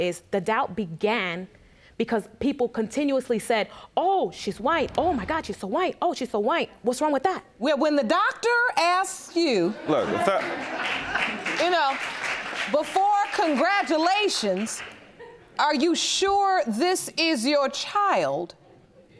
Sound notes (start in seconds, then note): 10.2 applause